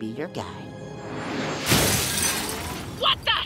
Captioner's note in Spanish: crescendo, choque